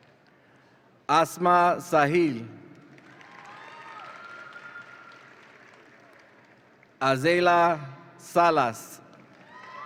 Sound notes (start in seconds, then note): 2.9 audience applauds and cheers